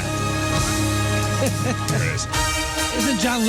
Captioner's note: laughing